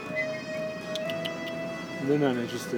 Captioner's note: clicking tongue